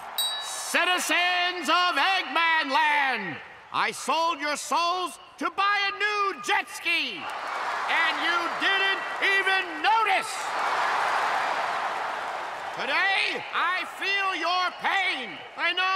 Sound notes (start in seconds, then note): 0.1 ding; 7.6 crowd cheers; 10.5 all cheering